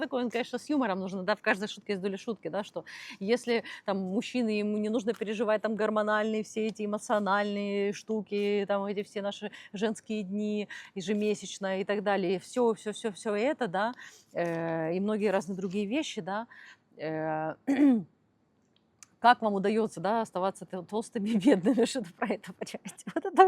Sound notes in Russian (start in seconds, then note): 17.7 откашливается; 23.0 смех